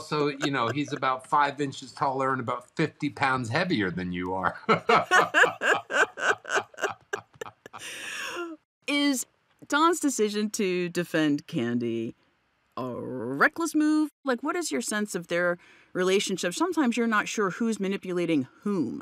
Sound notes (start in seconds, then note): 4.5 laughing